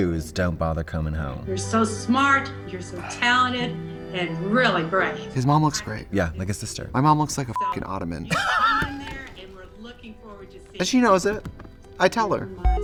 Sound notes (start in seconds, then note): 7.5 beep; 8.2 Katya laughs